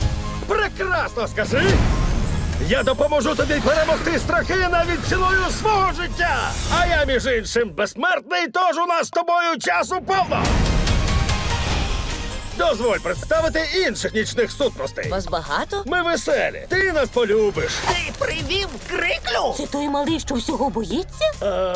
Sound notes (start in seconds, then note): 10.3 dramatic music; 11.4 twinkling